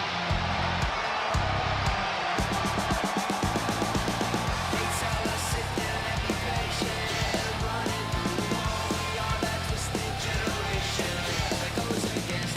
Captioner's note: crowd cheers